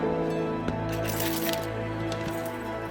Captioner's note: keys rattling